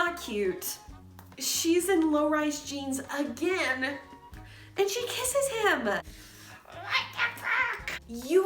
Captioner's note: exasperated noises